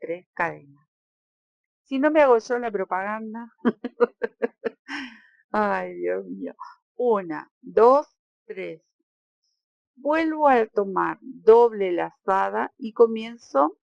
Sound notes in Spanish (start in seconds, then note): 3.7 risas